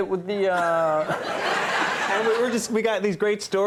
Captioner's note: all laughing